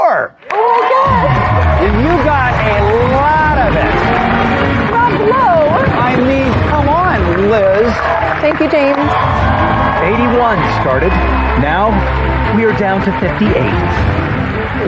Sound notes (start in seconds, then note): 3.5 dramatic sound effects; 8.9 dramatic music